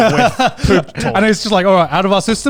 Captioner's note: laughs